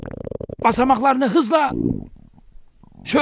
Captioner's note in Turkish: mide gurultusu sesi